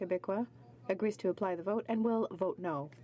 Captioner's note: speaking French